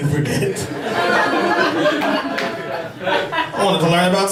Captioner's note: laughter